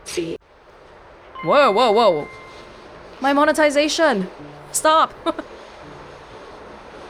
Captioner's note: chuckles